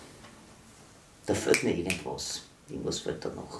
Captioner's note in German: schnipst